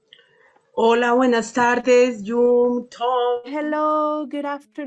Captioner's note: speaks in foreign language